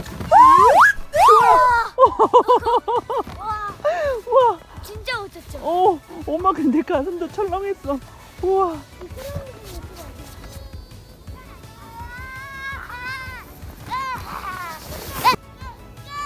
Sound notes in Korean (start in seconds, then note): 1.9 웃음; 2.2 감탄